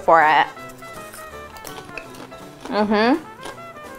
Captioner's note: popcorn crunching